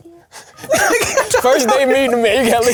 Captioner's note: laughs